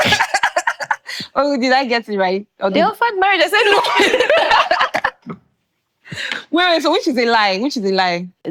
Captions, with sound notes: [laughing] Oh, did I get it right? They offered marriage, I said no. [laughing] Wait, wait so which is a lie? Which is a lie?